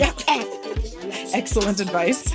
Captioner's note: laughing